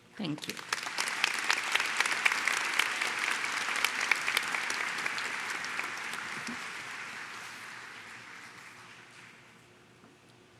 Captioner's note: Applaudissements